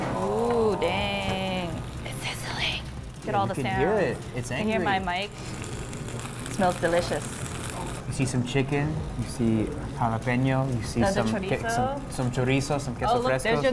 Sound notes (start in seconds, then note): 2.2 whispering; 5.4 intense sizzling